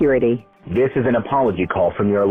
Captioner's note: robocall